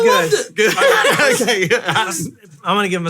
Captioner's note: laughing